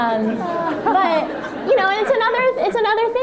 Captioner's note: laughter